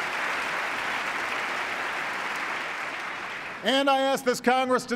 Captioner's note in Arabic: تصفيق